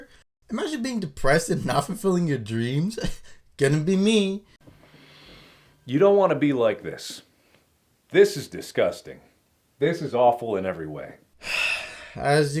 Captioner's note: sigh